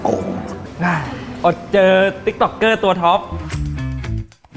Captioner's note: losing voice from hard work